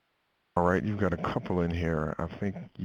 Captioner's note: voiceover